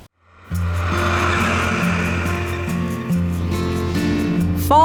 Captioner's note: tractor engine